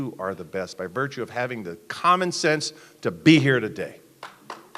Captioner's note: applause